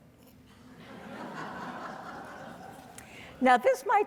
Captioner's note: audience laughing